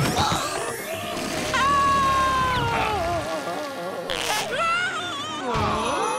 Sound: groaning

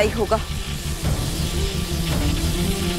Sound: current flowing

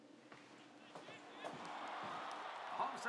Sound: tv: crowd buzzes

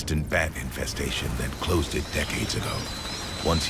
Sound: bats screeching

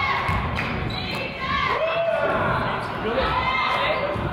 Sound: claps

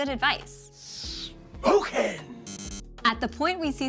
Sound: buzzer sounding

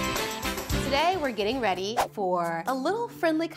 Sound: exciting upbeat music; air whooshing

